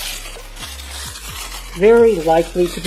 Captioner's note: tearing through cling wrap